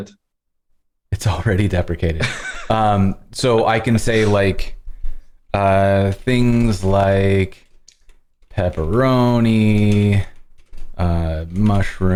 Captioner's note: laughter